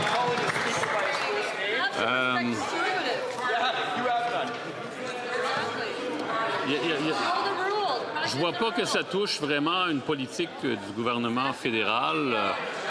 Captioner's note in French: applaudissements